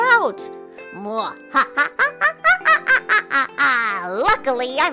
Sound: evil laugh

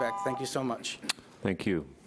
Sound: timer buzzing

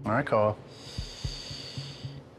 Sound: inhales sharply

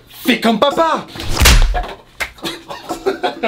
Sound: slap; laughs

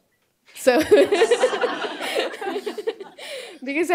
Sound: laughter

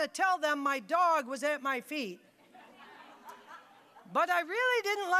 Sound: audience laughing

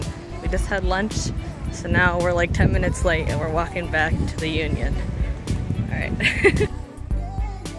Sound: laugh

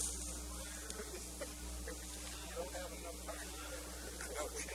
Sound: laughing

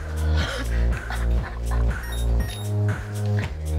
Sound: Jane laughs

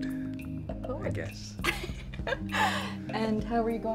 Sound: laughs

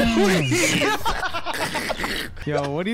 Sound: all laughing

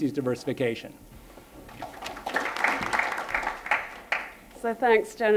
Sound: applause

